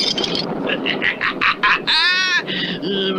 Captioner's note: Simon Bar Sinister Laughs